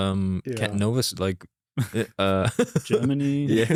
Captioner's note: laughs